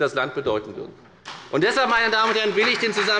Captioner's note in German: Beifall bei der FDP